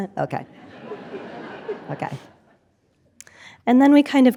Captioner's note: audience laughing